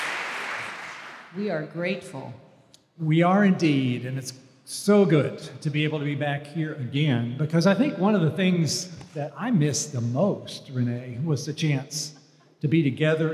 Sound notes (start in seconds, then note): 0.0 applause